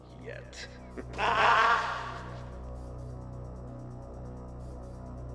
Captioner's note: man wailing; tense music